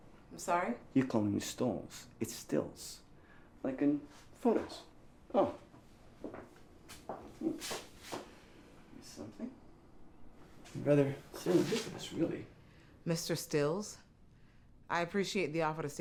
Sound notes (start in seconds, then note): 6.8 footsteps